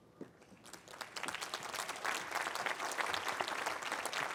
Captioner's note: applause